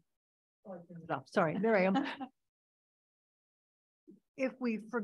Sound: audience laughing

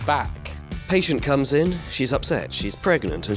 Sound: voiceover

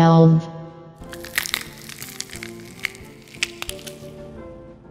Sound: cracking sounds

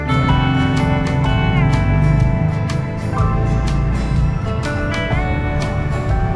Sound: cars and motorcycles are constantly on the road

